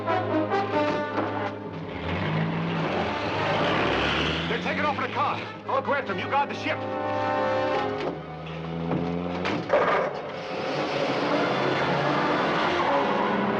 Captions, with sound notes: (engine revs) - They're takin' off in a car. I'll grab them, you guard the ship. (engine revs)